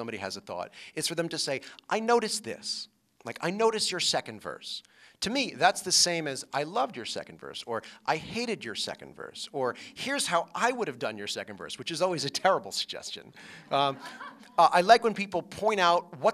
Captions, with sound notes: IF SOMEBODY HAS A THOUGHT, IS FOR THEM TO SAY, "I NOTICED THIS. LIKE I NOTICED YOUR SECOND VERSE. TO ME, THAT'S THE SAME AS I LOVED YOUR SECOND VERSE OR I HATED YOUR SECOND VERSE OR HERE'S HOW I WOULD HAVE DONE YOUR SECOND VERSE WHICH IS ALWAYS A TERRIBLE SUGGESTION [LAUGHTER].